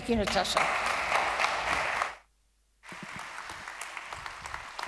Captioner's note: audience clapping